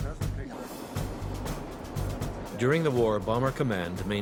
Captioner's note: voiceover